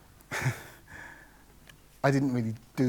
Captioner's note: laughs